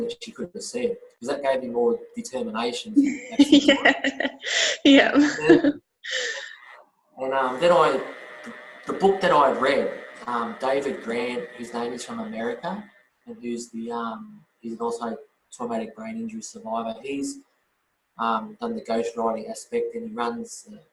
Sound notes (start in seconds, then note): 2.9 laughs